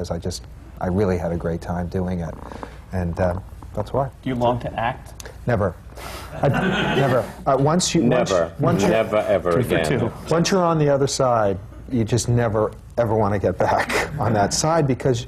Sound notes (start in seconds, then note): 6.4 laughter; 13.8 laughs